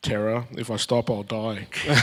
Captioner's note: laugh